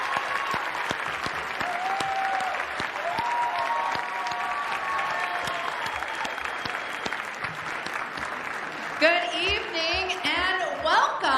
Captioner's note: applause